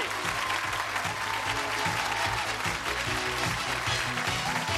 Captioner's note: cheers and applause